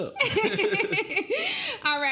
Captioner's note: laughing